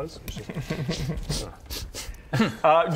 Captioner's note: sniffly sniffles